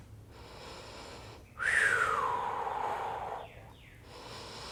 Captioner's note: breathing